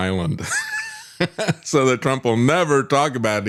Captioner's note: laughs